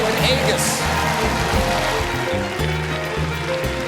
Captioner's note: applause